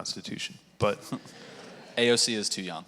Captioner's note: audience laughing